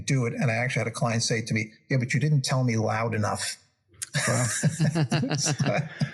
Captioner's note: laugh